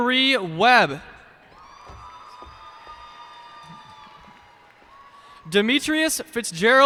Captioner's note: cheers and applause